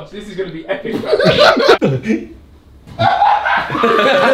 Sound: laughs

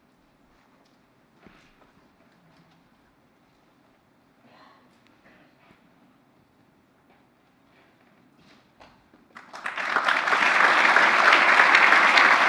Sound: applause

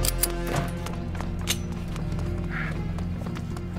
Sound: gun cocking

